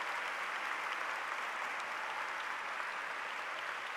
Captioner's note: applause